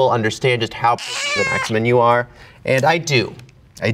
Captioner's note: cat meowing